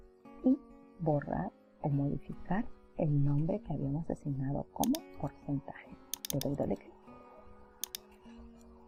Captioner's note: double click